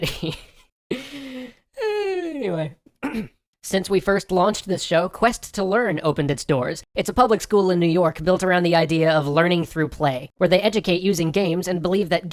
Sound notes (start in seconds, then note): 0.0 can't hold back laughter; 0.9 recovery sigh; 3.0 clears throat